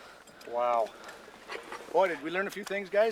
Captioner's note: voiceover